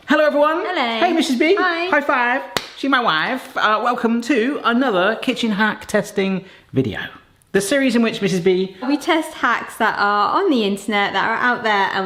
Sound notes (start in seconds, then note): 2.4 hands slap